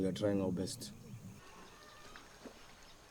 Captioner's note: water flowing